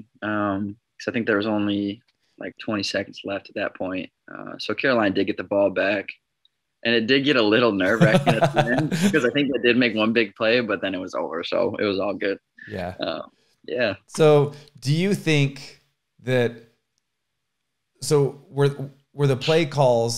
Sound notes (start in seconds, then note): 7.8 laughs